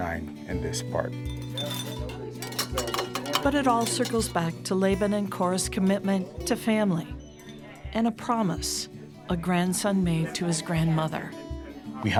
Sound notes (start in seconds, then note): 1.2 utensils cluttering; 1.4 people chattering